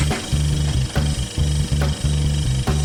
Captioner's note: camera whirring